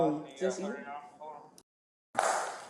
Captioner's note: radio chatter